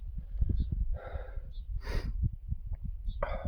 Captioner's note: heavy breathing